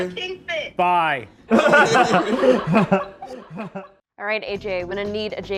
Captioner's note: all laughing